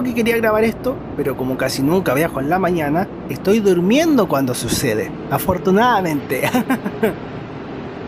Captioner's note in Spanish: risas